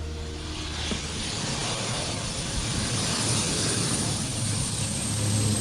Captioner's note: planning engine roaring